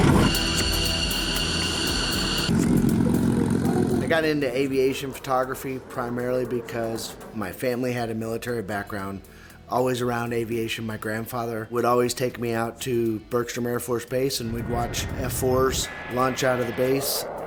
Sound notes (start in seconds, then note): 0.2 jet engine; 2.4 inline aircraft engine